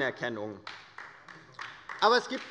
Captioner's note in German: Beifall der Abg